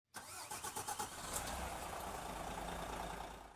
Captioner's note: engine revving